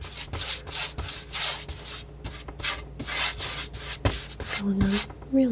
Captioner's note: tapping